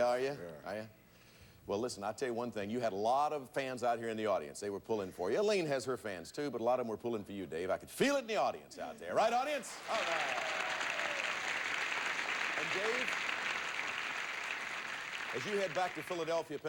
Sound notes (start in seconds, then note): 11.0 audience cheering